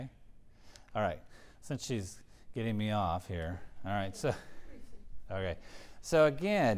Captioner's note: laugh